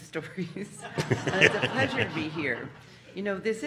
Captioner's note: audience laughing